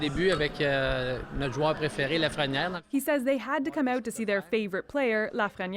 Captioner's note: speaking French